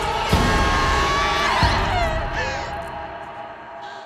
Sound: Brigit screaming

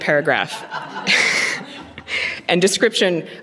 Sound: laughter

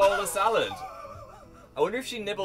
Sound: wheezing in the corner

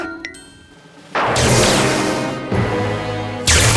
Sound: dramatic music playing; thunderclap

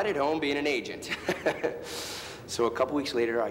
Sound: Thomas laughs

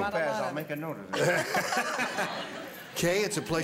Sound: laughter

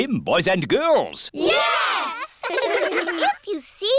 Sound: giggling

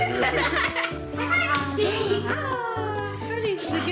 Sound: laughs

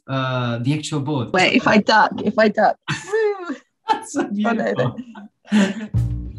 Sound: laughs

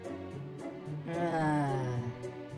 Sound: sighs

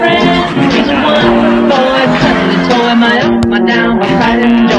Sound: laughs

